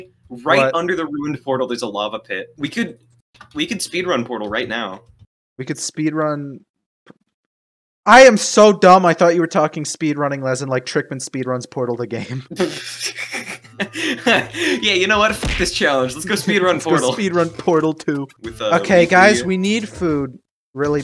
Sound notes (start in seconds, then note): 12.5 snickers; 15.5 instrumental